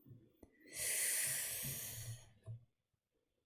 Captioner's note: sharp intake of breath